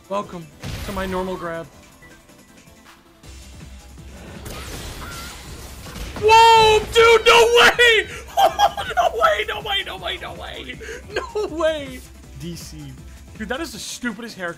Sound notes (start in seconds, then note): 7.7 laughs